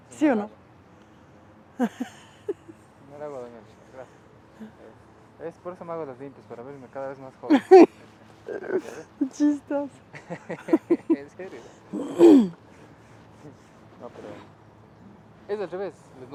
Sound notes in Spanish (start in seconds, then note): 10.1 risas